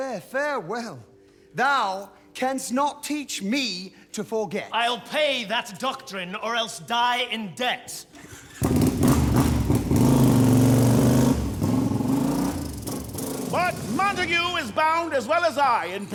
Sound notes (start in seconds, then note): 8.2 revs motorcycle